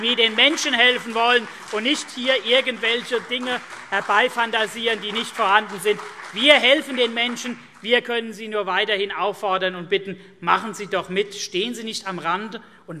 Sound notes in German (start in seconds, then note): 4.7 Beifall CDU und BÜNDNIS 90/DIE GRÜNEN